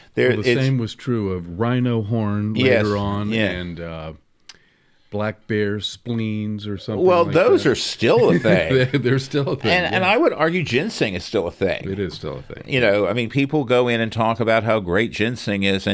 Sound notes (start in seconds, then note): 7.0 laughs